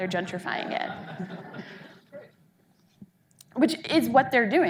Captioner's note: audience laughing